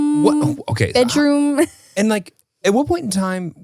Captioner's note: laughs